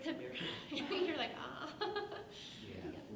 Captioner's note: laughs